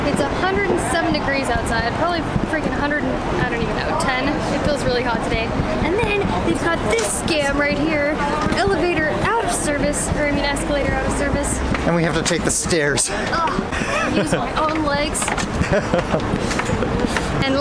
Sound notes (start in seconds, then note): 13.4 groaning; 15.5 laughing